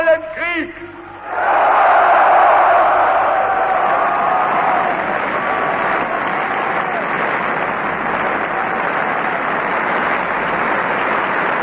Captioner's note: screams: "Yes!", Applause